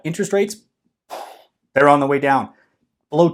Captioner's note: air whooshing